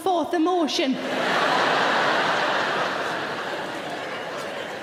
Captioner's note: audience laughing